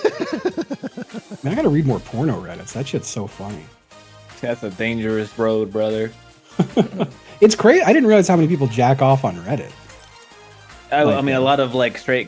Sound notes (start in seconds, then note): 0.0 laughs